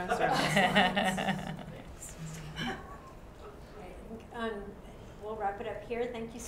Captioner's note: laugh